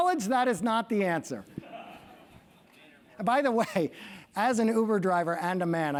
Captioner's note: laugh